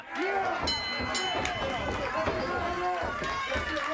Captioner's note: bell rings